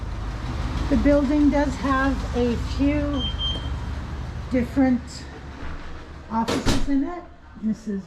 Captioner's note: beep beep